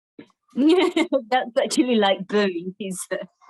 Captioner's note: laughing